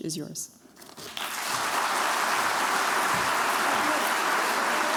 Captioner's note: cheers, applause